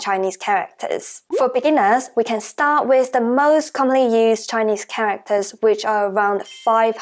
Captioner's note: Mandarin; Mandarin